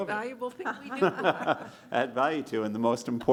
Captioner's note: laughter